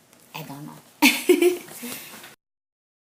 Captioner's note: laughs